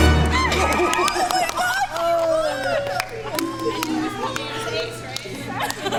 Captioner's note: clapping